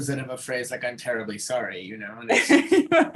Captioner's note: laughing